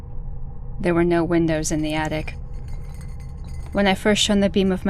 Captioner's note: slight, consistent glass rattle